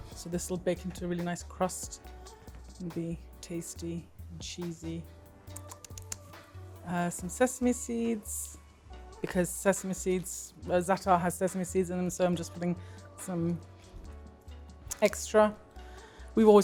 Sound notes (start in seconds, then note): 5.5 lips smack